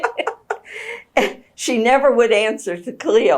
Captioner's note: laughs